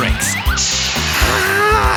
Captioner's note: sizzling; grumbling